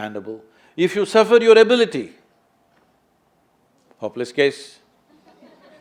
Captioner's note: laughter